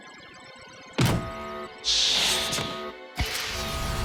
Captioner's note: buzzer sounds